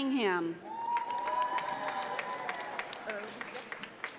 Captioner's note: audience applauds